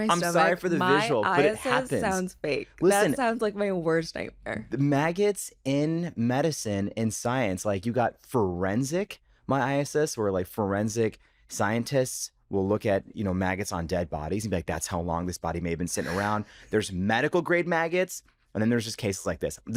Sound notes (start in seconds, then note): 16.0 chuckles